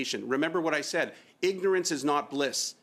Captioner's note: speaking French